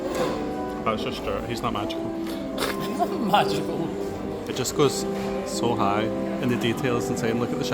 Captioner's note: laughs